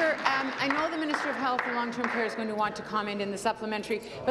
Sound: applause

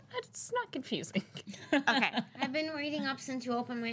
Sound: girl laughs

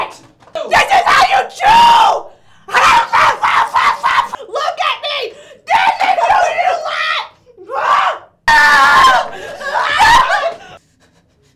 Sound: screaming

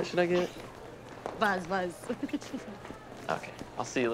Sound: laughs

